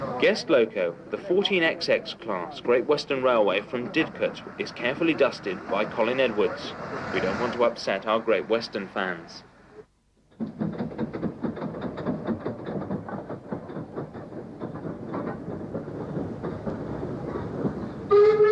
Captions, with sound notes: Guest Loco the 14 XX class Great Western Railway from Did. Cut is carefully dusted by Colin Edwards. We don't want to upset our Great Western fans. [train arrives]